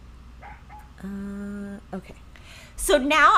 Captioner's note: dog barking